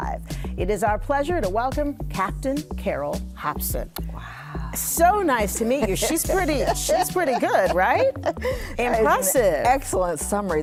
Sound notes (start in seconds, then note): 5.7 laughs